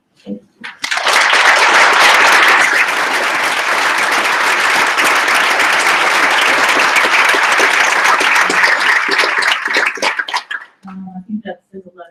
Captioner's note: applause